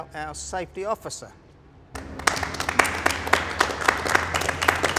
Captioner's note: all applaud